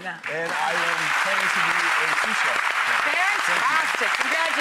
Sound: applause

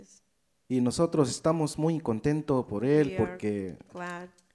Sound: speaks in foreign language

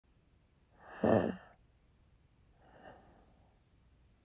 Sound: shallow breath

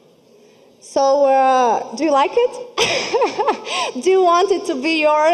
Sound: laughing

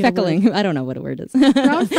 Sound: laughs

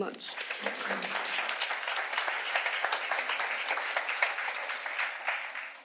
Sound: audience applauding

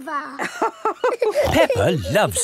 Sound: both laughing

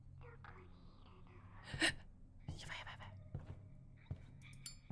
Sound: gasps

